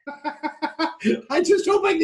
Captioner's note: laughter